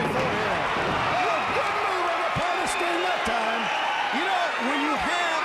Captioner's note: commentators chattering